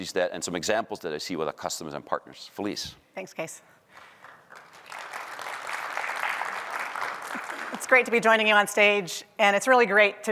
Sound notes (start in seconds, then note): 3.9 applause